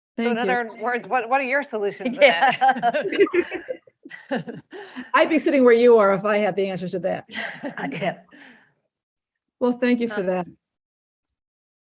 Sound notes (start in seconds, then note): 2.0 panelists laughing